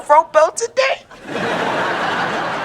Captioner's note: laughing